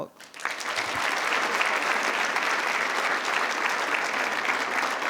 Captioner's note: attendees applauding